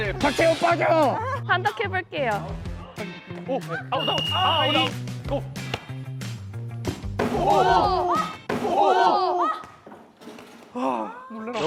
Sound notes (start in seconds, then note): 8.5 thud